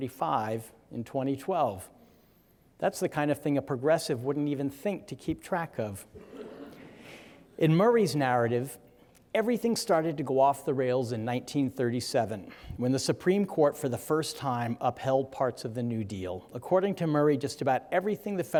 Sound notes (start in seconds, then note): 6.2 audience chuckling